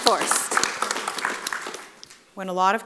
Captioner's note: audience applauding